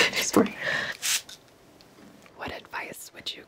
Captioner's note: bottle sprays